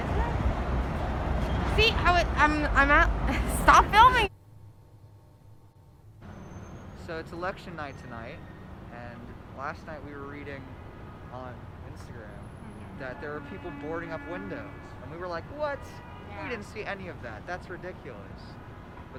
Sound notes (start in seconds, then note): 3.3 chuckles